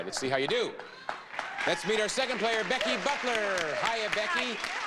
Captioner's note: audience cheering